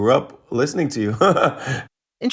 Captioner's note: laughter